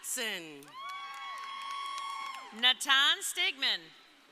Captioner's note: crowd applauding; crowd cheering